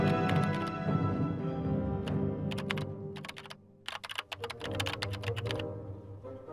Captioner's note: dramatic music; keyboard clicks